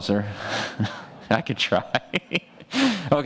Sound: laughs

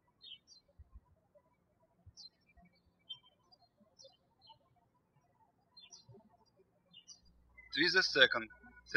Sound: birds chirping

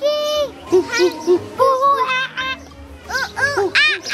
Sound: imitating a monkey

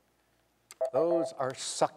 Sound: signal beeps

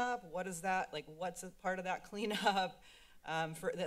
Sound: laughs

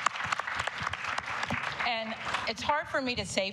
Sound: applause

